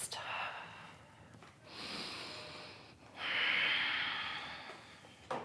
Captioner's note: exhales and inhales